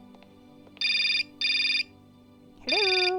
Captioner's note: phone rings